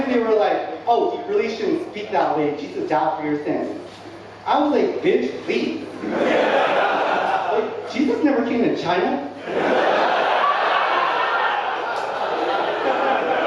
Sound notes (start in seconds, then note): 9.4 audience laughing